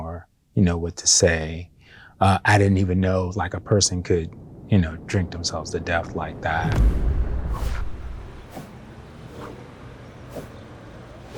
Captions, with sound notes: or what to say. I didn't even know a person could drink themselves to death like that. (words whooshing)